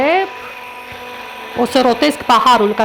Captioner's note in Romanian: sunetul blenderului